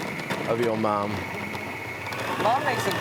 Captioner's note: blender whirring